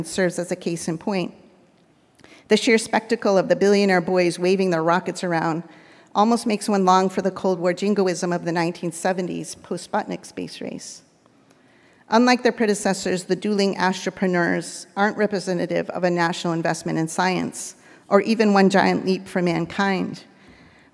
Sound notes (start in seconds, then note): none